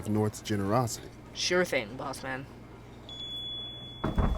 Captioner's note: shop bell rings